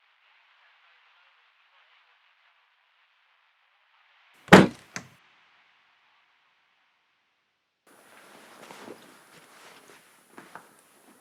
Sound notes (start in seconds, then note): 4.5 door slams